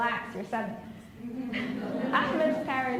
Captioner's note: laughs